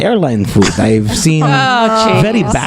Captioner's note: laughter